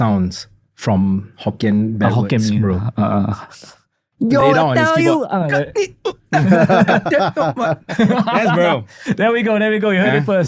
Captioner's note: chinese Dialect